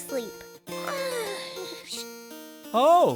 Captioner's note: yawning; yawning